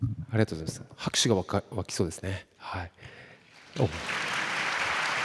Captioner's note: 拍手